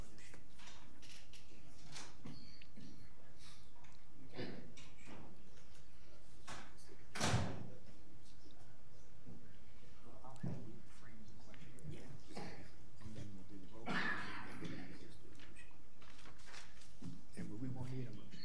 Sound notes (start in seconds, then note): 13.8 coughing